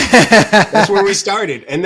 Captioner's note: laughing